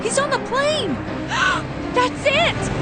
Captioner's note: gasp